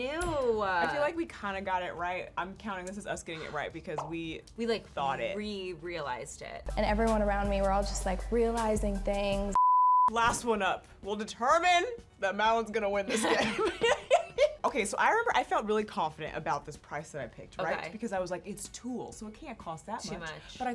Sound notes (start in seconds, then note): 13.1 laugh